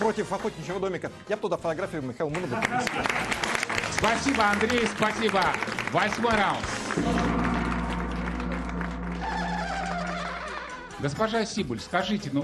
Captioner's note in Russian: аплодисменты